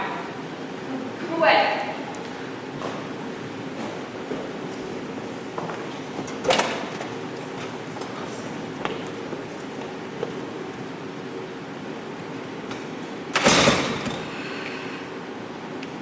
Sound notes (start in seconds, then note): 5.5 door opens offscreen. Storm fades fully